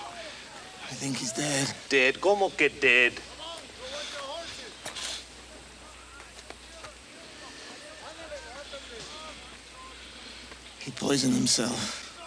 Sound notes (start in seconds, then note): 2.6 speaks Spanish; 7.8 Crecencio sniffs